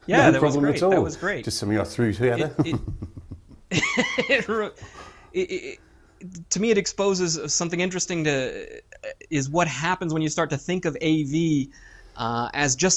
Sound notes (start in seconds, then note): 2.4 laugh; 2.6 chuckle